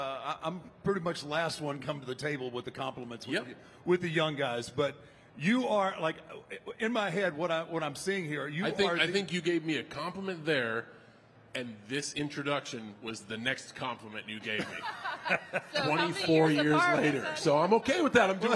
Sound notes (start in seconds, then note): 14.4 The Undertaker and Michelle laughing